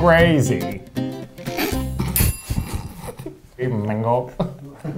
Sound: sniggers; bell rings

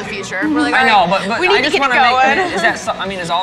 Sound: overlapping chatter

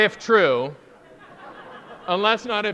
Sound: audience laughing

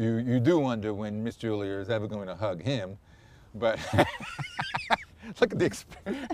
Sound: laughter

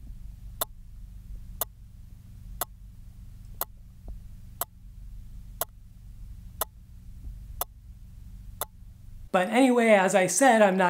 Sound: click ... click ... click

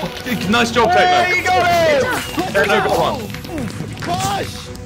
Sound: fireworks sound, and voice overlay; more fireworks sounds

